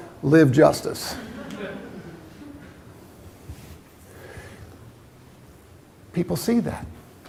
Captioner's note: laughter